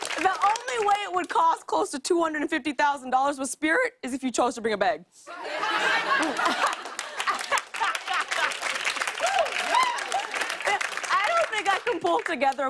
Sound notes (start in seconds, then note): 5.4 laughter and applause